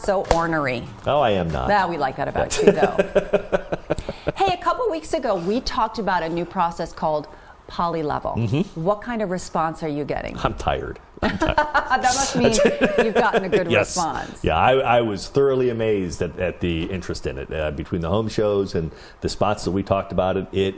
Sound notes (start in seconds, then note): 11.2 laughing